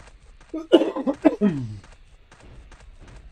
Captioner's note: coughing